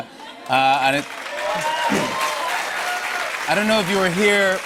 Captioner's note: cheers and applause